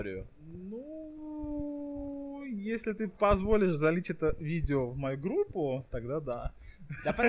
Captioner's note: laughing